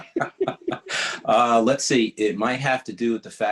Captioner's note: laughing